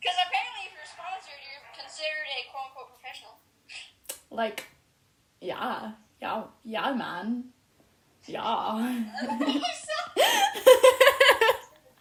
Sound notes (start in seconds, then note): 8.9 snips laughs